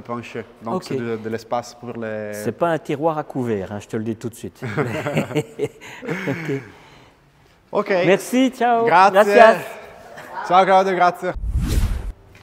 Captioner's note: laughs